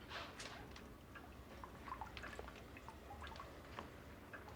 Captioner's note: dripping